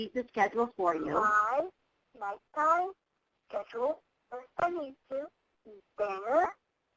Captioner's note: voiceover